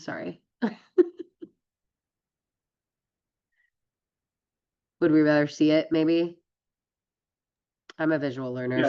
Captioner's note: laughs